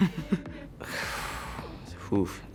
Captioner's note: guy giggling; guy sighing